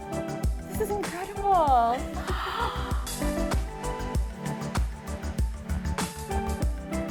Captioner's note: gasps